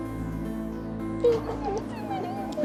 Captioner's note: crying